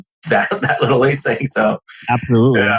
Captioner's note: laughs